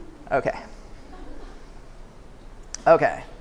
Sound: laughter

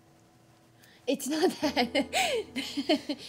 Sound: laughs

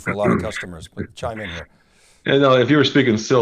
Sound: chuckles

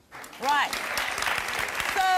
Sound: audience applause

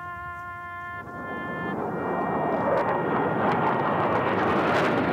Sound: sound of jets flying overhead

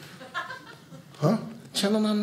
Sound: audience laughing

